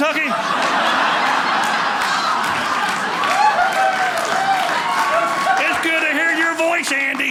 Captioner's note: audience laughing